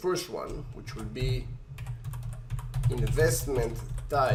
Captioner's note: keyboard typing